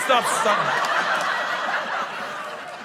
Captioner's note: laughter